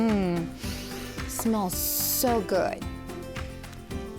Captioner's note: teacher sniffing